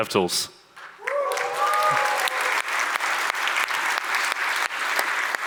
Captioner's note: audience applauds